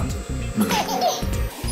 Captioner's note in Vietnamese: Hê hê😆